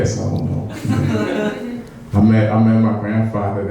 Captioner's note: laughing